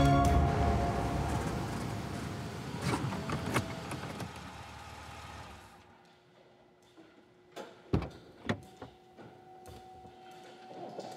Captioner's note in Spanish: ruido del vehículo